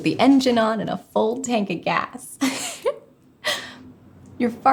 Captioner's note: laughing